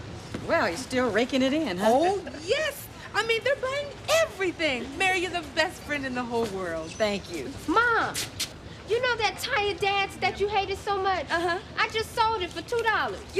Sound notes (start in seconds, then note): none